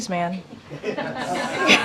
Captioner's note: laughter